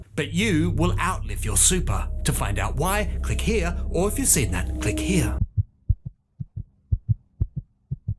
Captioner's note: heartbeat